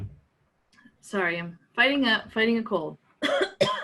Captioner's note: coughs